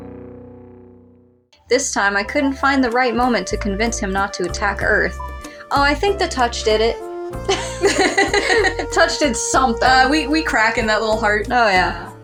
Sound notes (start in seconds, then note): 1.6 sensual Music; 7.4 both Laugh; 8.9 sensual Music